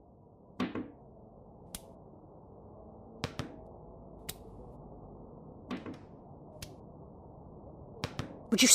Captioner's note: muffled wind, ball bouncing periodically, fades in